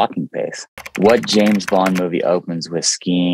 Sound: keyboard clicking

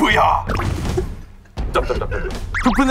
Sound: the original writer can't stop laughing

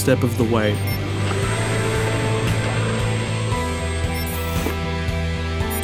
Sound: mechanical whirring

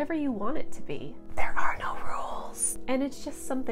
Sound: whispering

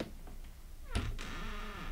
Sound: door closes

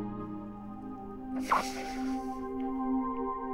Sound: chuckle

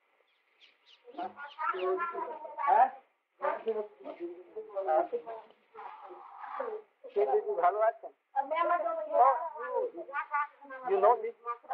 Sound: Hindi

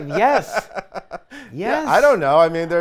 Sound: laughs

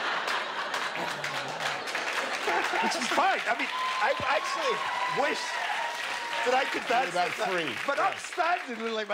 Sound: laughter; applause

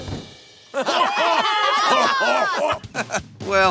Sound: laughing

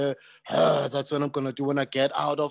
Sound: groans

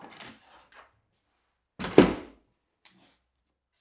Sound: tools thudding

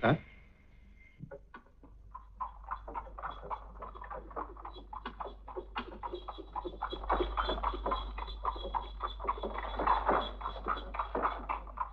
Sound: cart rumbling

